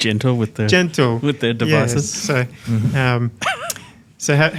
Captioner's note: chuckles